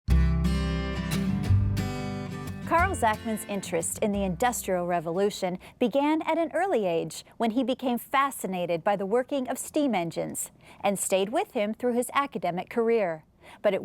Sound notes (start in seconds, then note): 0.1 bright music; 2.8 voiceover